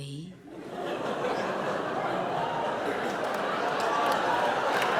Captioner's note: audience laughs